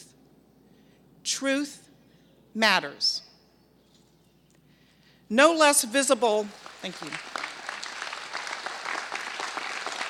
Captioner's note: applause